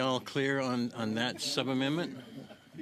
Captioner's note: laughter